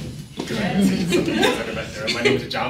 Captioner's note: laughing